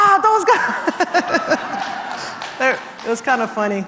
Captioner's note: laugh